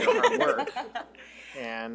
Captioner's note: all laugh